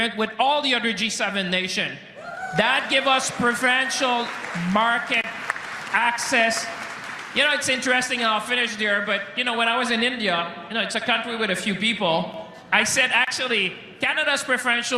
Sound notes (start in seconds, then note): 4.7 cheering and Applause